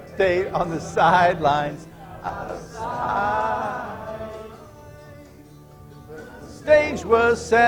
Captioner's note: laughter